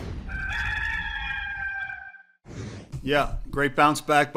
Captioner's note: gamecock crowing